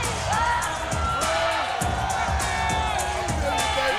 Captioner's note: Booker shouting